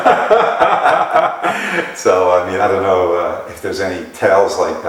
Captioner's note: laughter